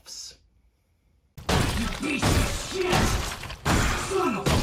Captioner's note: Stamping sounds as Isaac shouts